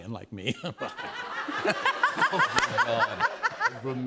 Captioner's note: laughter